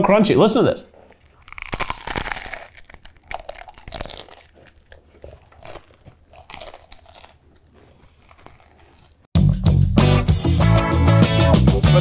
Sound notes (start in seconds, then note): 0.8 crunching; 9.3 funky intro music